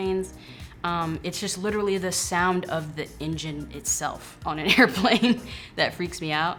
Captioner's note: laughing